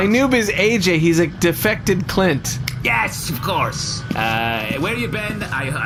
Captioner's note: snaps